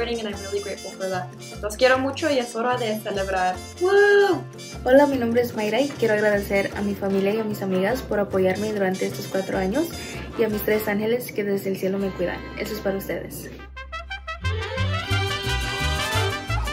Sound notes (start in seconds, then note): 1.6 speaks in foreign language; 4.8 speaks in foreign language; 13.9 cheerful music